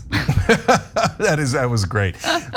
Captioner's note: laugh